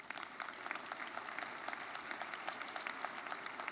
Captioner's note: crowd applauding